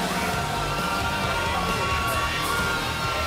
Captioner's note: cheers and applause